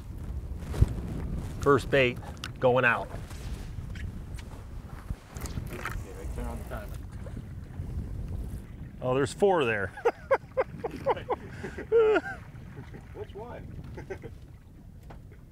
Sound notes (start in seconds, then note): 7.1 water plops; 9.9 laughs